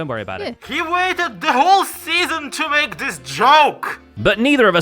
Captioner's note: yelling